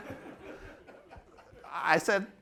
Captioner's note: laughter